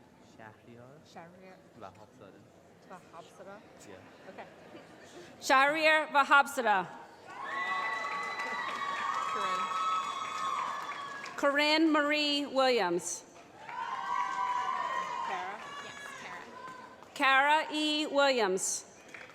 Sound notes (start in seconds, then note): 13.5 cheering